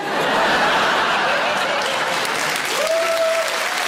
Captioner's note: audience laughing; audience applauding